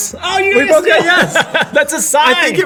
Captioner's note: laughing